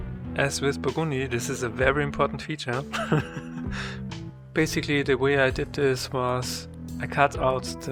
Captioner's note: dies laughing